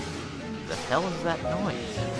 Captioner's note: sounds of cars crashing